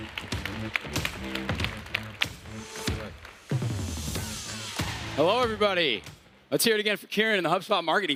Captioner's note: applause